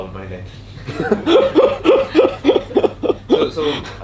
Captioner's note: laughter